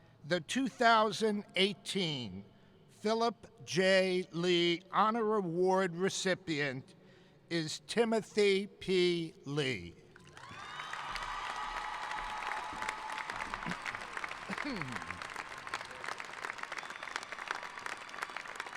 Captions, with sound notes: The 2018 Philip J. Lee Honor Award recipient is Timothy P. Lee. (cheering) (applauding)